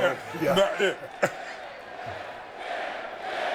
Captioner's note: chuckles